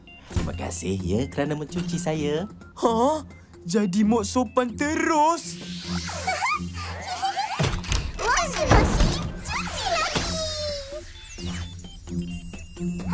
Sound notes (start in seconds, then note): 6.2 giggles; 11.2 bright music playing